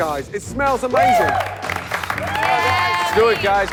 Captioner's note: cheers and applause